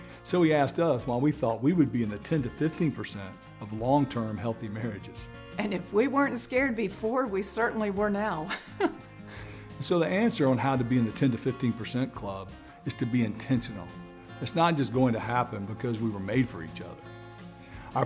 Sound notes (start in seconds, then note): 8.4 chuckles